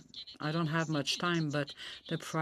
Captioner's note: speaking French